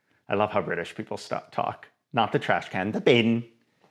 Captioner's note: none